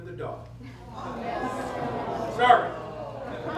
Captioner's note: crowd murmurs